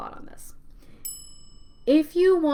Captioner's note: bell rings